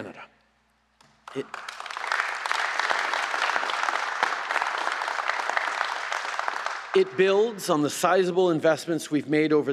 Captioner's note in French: Applaudissements